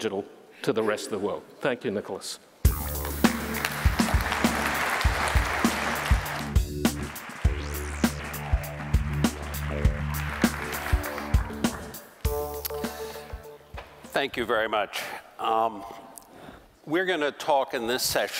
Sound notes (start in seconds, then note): 5.0 applause